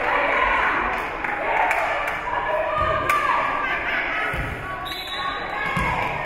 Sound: spectators cheering and applauding; spectators shouting encouragements; whistle being blown

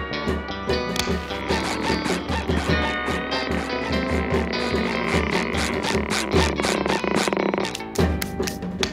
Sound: shoes squeak

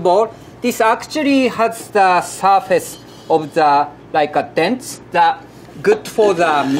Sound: surikogi grinding

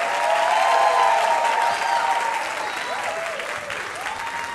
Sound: audience cheers

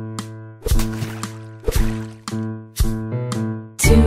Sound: water splashing

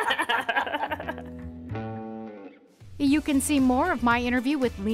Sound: laughing together

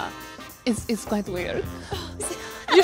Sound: segues to Russian female voice

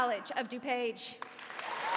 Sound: cheering and applause

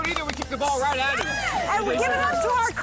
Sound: applause

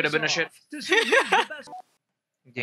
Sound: laughing

